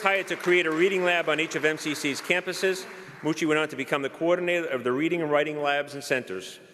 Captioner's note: applause